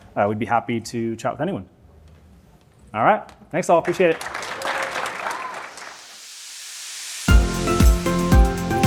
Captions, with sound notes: We'd be happy to chat with anyone. All right, thanks all, appreciate it. (applause) (upbeat music)